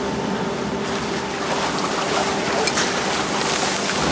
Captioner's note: whirring of the machines, rhythmic splashing